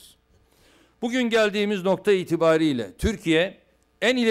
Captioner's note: non-english speech